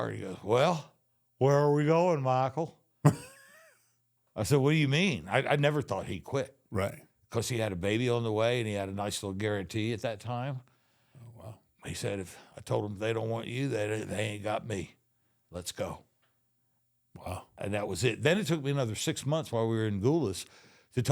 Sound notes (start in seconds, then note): 3.0 The Undertaker laughs